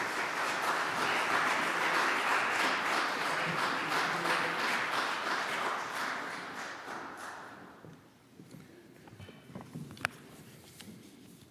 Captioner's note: applause